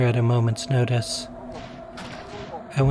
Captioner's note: gibbering and Gun Shots